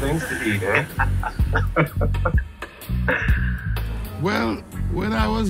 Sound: laughing

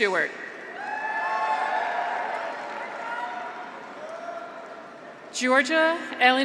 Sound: graduates cheer; audience applauds

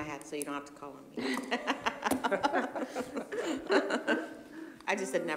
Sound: laughter

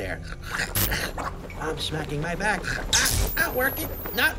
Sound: ack

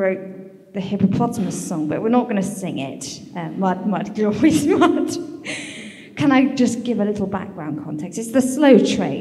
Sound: laughing

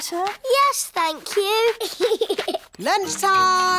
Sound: giggles

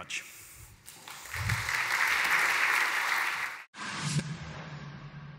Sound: applause

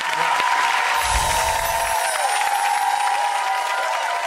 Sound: audience cheering

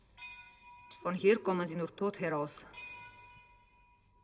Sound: in German

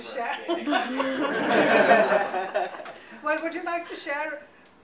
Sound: audience laughing

